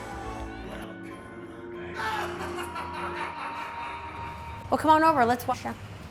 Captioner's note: howlish laughter